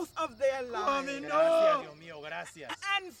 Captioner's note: people praying